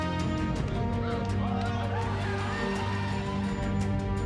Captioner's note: cheering